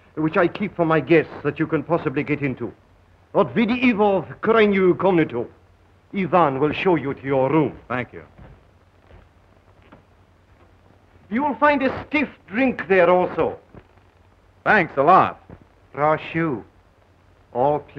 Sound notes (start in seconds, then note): 3.5 speaking russian; 16.0 speaking russian